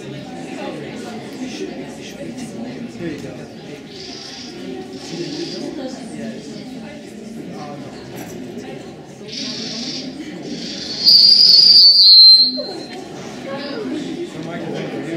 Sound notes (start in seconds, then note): 10.5 owl Screech; 10.9 microphone Squeal